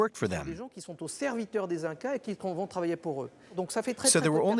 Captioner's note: French spoken audio